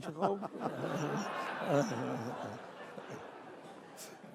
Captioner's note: laughing